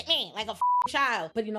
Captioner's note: beep